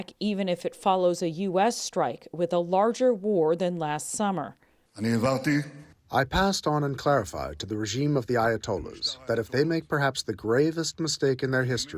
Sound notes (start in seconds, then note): 6.6 through translator